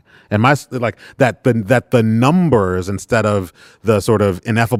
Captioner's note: none